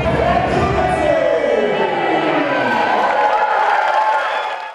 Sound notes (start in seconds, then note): 3.1 cheers and applause